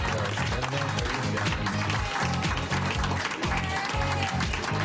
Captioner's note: cheers and applause